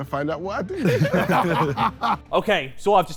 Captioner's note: Sidemen laugh